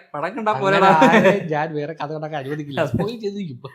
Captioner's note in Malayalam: പൊട്ടിച്ചിരി